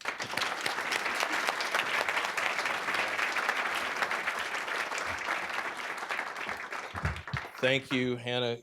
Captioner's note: applause